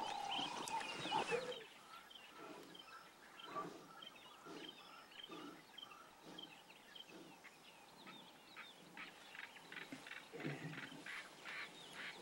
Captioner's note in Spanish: sonidos selváticos